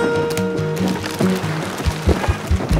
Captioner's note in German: Rascheln